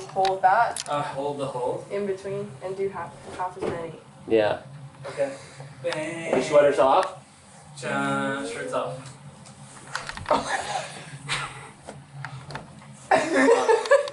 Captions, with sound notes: Hold that. - Hold the hold? - In between, and do half as many. - Yeah. - Okay. - Your sweater's off? - (hums) Shirts off. - (wheezes) Oh my god.